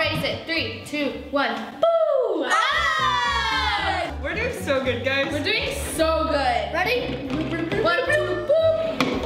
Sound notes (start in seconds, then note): 2.1 screams